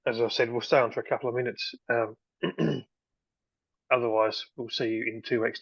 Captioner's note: clears throat